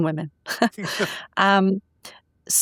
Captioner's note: laughing